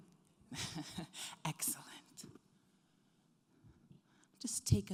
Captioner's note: chuckles